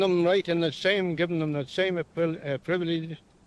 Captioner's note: stammers